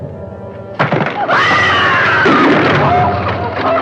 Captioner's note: screams